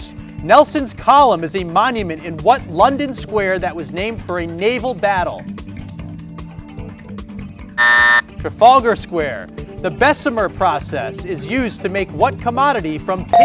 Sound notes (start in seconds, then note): 7.8 buzzer buzzing